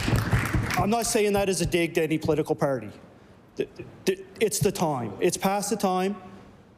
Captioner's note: applause